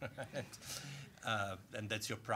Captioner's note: laughing